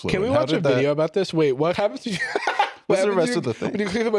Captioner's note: laughs